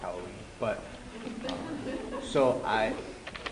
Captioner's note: laughter